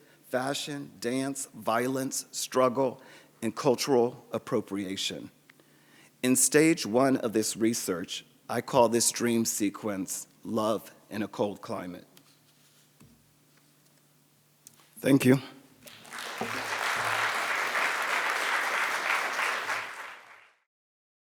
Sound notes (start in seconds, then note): 15.8 audience applauds